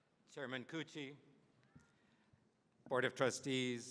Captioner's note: none